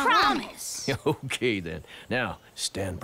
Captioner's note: chuckling